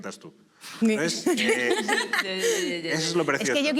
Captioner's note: laugh